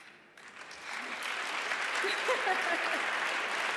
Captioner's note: audience applauds; laughs